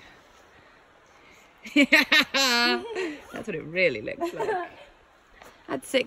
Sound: laughs

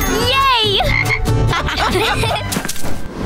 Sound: laughing

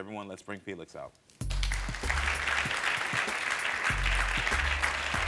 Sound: audience applauding

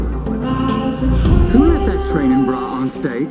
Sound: laughs

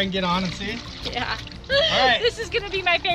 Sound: laughs

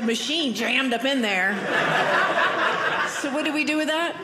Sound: audience laughing

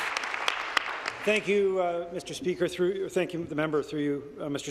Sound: applause

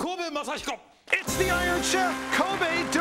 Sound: cheering

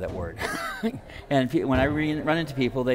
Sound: laughing

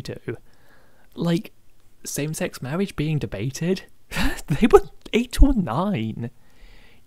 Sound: laughs performatively

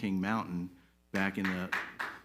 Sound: audience claps

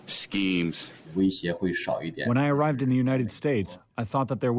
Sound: through translator

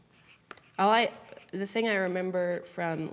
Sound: none

